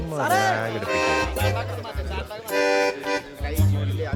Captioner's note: indistinct chatter